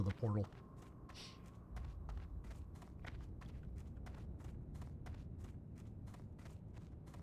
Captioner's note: footsteps